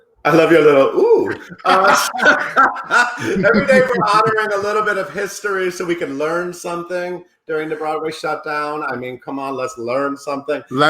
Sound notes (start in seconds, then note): 0.4 laughing